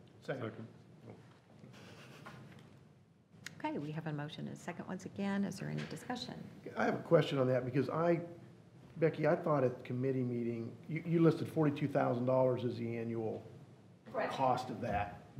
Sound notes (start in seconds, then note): 1.7 laughing